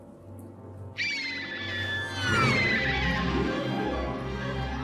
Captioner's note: Phoenix shriek